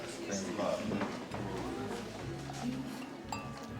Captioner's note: background chatter